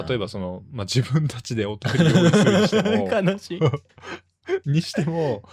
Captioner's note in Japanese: 笑い